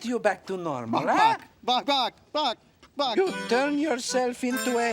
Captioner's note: chicken clucking